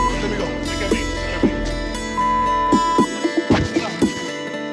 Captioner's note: beeping